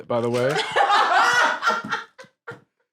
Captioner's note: laugh